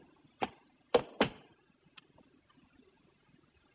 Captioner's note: stamps floor